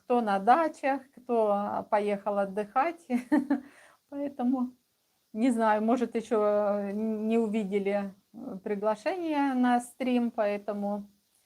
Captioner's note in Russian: смех